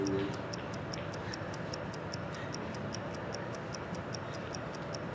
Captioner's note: clock ticking